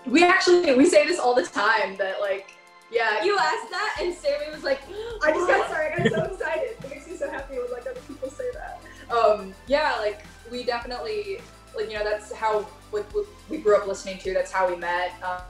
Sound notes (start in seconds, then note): 4.6 gasps